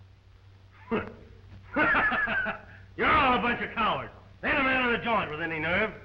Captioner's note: laughs